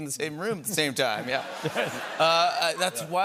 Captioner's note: laughter